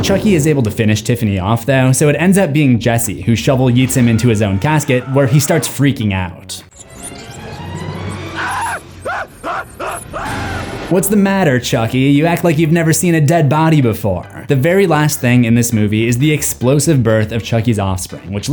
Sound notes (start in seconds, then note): 6.7 dramatic music; 7.5 Chucky screaming